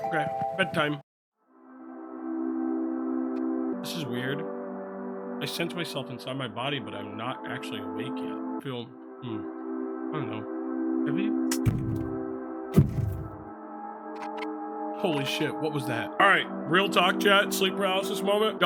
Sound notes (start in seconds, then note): 2.0 gentle music; 12.7 something thuds